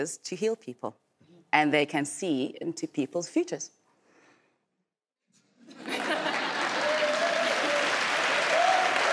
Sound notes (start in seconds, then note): 5.8 laughing